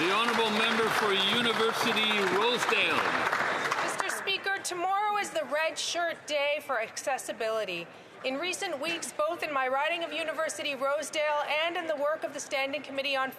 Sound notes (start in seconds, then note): 3.1 some Applause